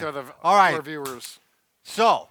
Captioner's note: claps